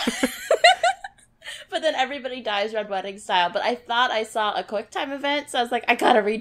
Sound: laughs

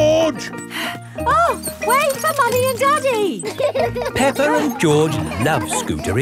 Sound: panting

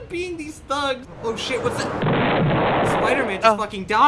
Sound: stock explosion

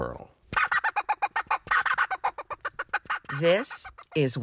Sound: duck call squawking

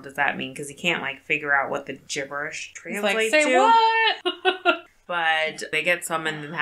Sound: laughs

